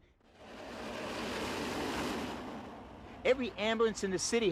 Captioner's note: air swooshing